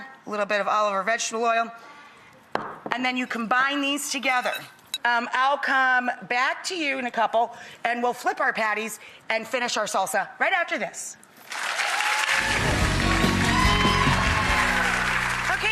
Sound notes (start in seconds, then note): 11.4 audience applauds; 12.5 upbeat music